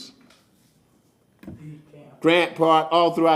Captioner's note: none